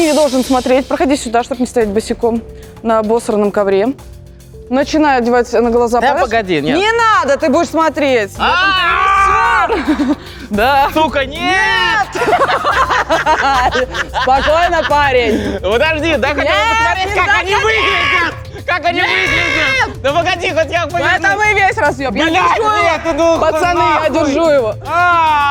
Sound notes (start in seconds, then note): 13.1 laugh